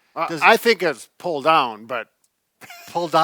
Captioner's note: laughs